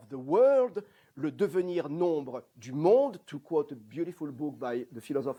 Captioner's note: non-english